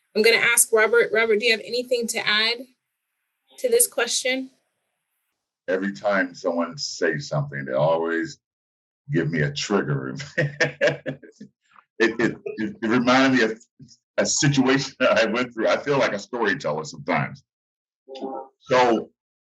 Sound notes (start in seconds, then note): 9.1 laughs